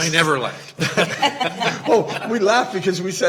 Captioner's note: Regents laughing